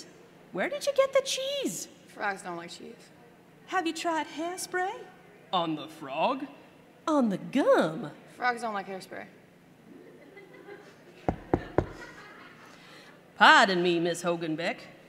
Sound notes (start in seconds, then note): 9.4 laughter; 11.2 knock knock knock